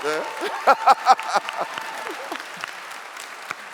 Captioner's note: clapping and laughing